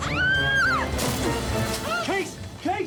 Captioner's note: thud